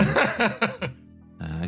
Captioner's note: laugh